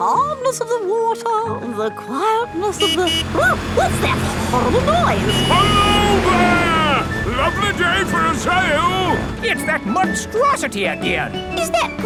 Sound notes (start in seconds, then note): 2.5 honking